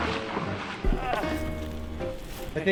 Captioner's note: grunting